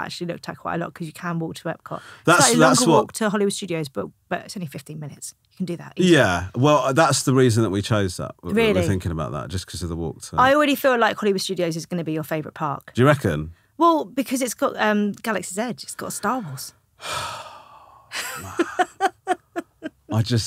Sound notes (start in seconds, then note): 17.0 Romesh sighing; 18.1 laughing